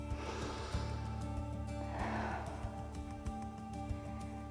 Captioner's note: inhales and exhales